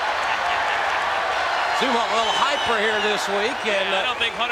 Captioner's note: applause